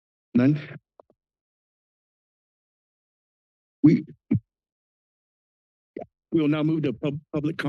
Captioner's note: silence